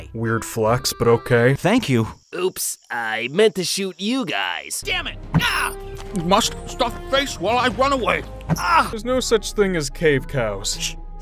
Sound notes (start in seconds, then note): 5.3 yells; 8.4 grunts